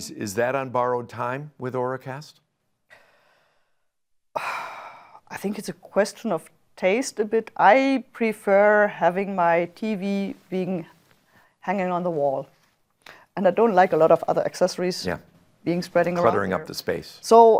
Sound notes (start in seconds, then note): 2.9 exhales